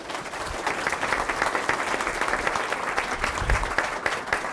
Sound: audience applauds

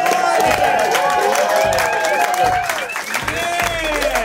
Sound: cheers

